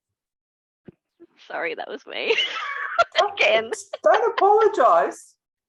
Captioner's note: laughing